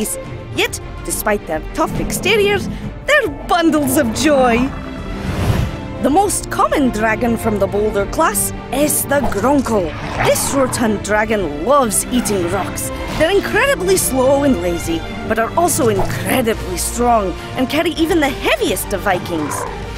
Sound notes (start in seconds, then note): 4.7 adventurous music; 9.8 dragon roaring